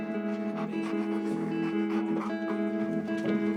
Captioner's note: dog panting